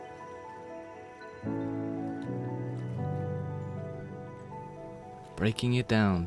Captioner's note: gentle music continues; water flowing